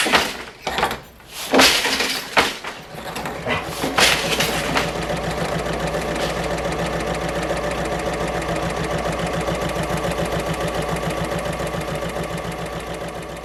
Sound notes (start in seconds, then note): 3.0 sewing Machine Sounds